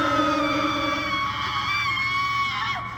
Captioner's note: Ginger screaming